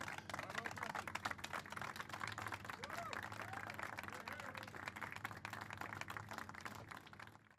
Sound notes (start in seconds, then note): 0.0 applause